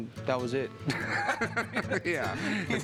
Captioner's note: laughter